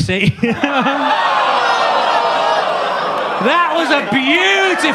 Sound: Gary chuckling; audience groaning

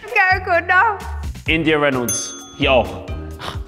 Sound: correct bell

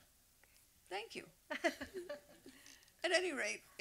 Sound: laughs

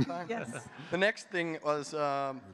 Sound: people chuckling

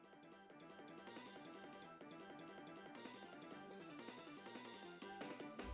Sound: video game noise

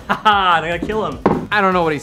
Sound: laughs

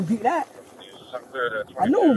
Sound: radio chatter

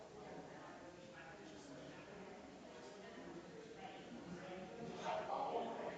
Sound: people chattering distantly continues

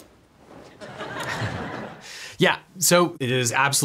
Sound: attendees laughs

